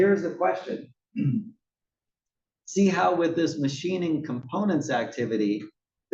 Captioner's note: cough